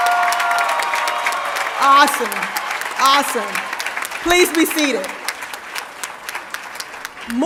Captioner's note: applause